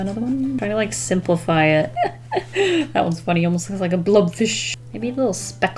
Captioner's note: laughs